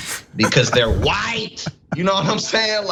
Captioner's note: laugh